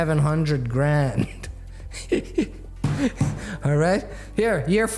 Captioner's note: laughs